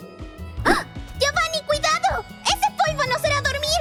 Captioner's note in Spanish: jadeo